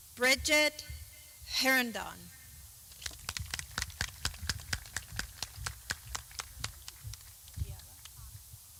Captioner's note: clapping